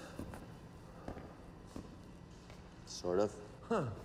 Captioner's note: footsteps tapping